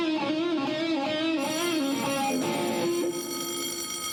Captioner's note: bell ringing